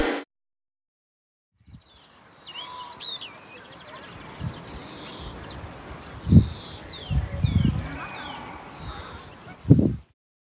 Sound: birds chirping

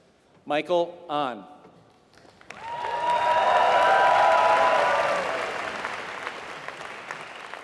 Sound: applause

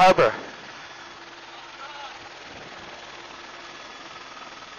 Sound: helicopter engine whirring

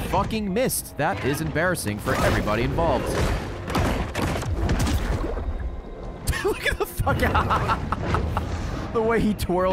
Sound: laughs

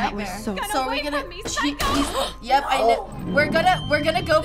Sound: gasping

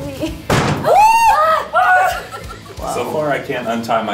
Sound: screaming

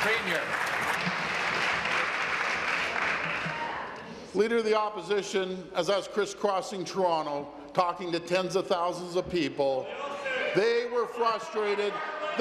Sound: applause

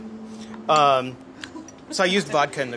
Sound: laughs

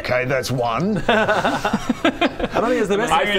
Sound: hopeful laughter

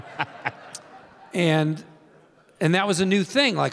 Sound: audience laughing; continues laughing

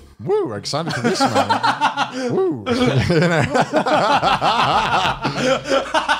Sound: laughs

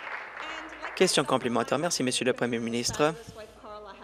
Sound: applause

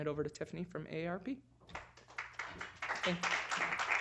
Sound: applause

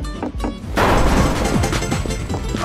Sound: door kicks

